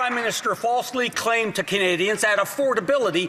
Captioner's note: some Applause